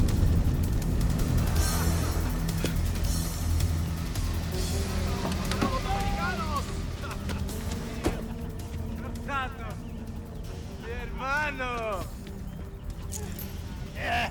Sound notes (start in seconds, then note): 0.2 ominous music; 4.9 people speaking in Spanish